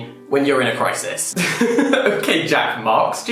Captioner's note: laughing